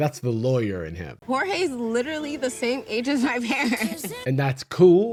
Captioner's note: laughs